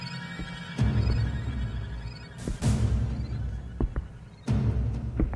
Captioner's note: heavy footsteps